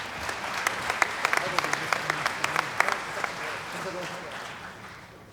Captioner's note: applause